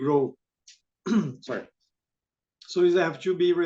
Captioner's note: clears throat